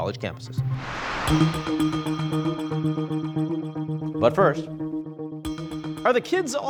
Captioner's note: upbeat music; air whoosh